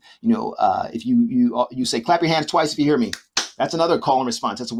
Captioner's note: claps